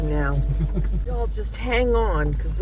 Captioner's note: laughs